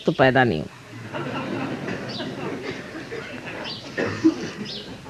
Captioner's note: yogis laugh